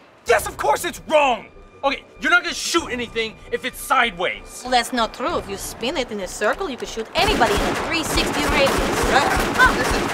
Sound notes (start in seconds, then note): 7.4 gun Shot